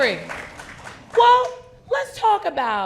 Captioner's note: people clapping